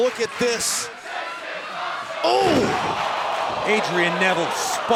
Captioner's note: fans chanting